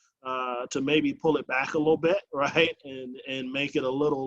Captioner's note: chuckles